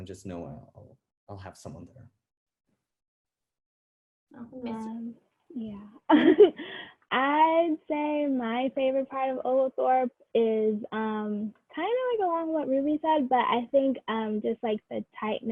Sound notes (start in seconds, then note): 6.0 laughs